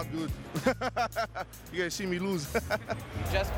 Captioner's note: laughs